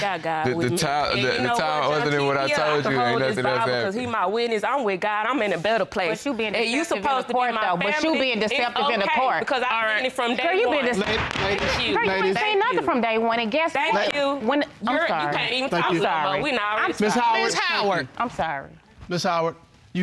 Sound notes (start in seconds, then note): 12.0 gavel banging